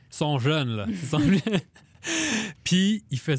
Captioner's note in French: rires